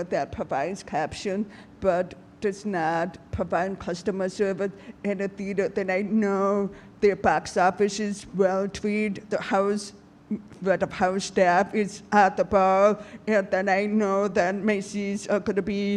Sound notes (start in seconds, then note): none